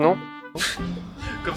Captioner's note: scoff